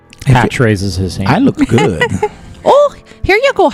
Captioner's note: laughs